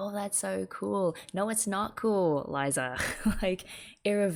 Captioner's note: laughs